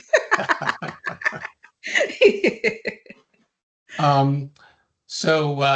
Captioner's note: chuckles